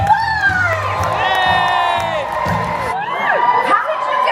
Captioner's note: guests cheer and clap